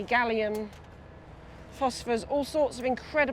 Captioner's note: none